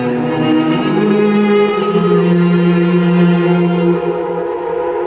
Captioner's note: ominous humming